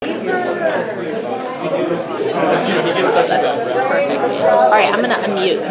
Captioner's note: audience chattering indistinctly